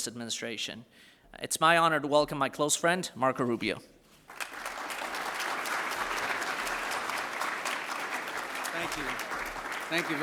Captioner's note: applause